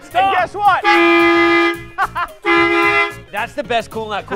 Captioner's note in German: horn blaring